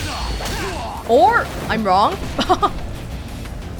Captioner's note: chuckles